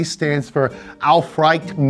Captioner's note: speaks in foreign language